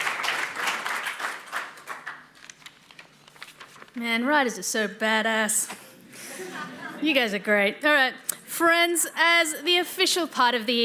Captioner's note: applause